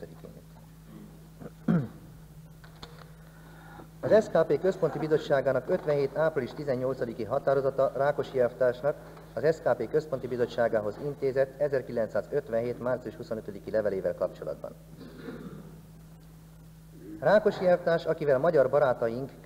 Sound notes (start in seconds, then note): 0.8 throat-clearing